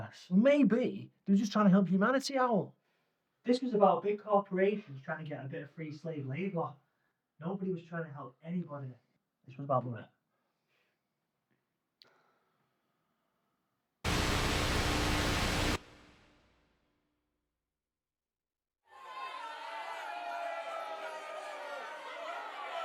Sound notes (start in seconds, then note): 14.0 static buzzing; 18.9 crowd booing and shouting